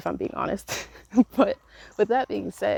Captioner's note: laughs